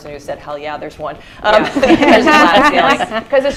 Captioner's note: laughter